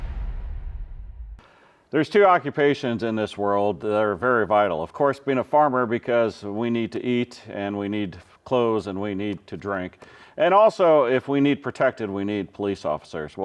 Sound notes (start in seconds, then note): none